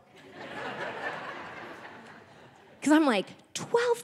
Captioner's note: audience laughing